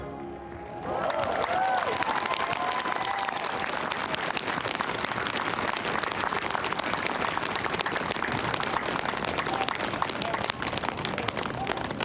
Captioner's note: applause